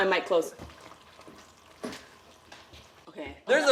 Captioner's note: squishing